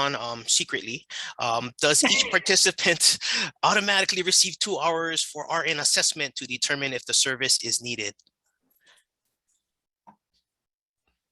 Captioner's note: laughing